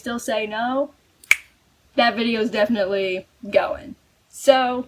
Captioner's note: snap